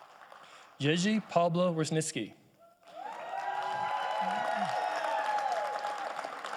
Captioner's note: audience applauding